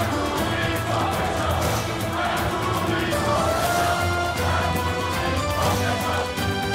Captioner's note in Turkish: Hep bir ağızdan